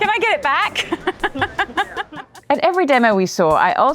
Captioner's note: laughs